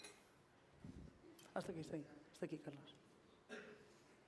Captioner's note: non-english speech